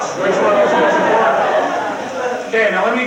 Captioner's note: crowd laughing